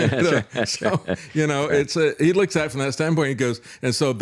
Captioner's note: laughs